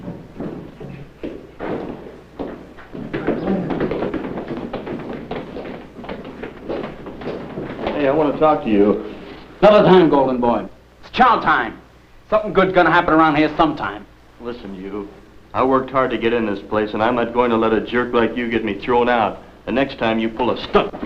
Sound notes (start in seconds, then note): 2.4 equipment thudding; 5.6 footsteps echoing